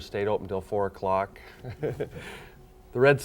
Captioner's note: laughing